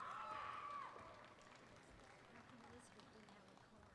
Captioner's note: applause